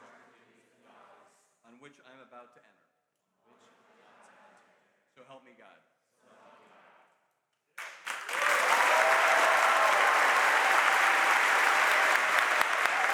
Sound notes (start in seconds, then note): 7.8 audience applauds and cheers